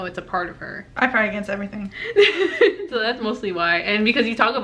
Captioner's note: laughs